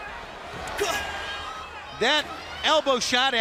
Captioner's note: crowd chatter